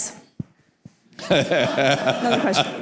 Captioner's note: laughter